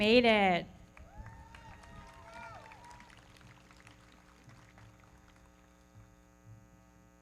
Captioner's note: everybody clapping; audience cheering